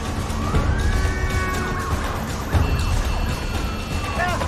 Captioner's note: siren wailing, horns honking